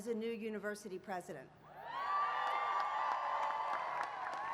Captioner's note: applause